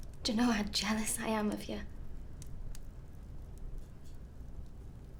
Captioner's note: none